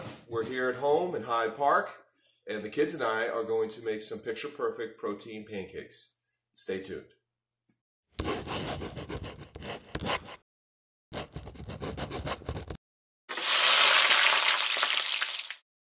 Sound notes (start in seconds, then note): 8.6 pencil noises; 13.3 sizzling grill noises